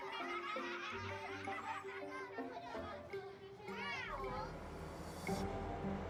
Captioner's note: laughter. indistinct conversation